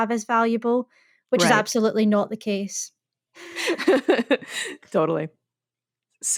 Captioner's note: laughing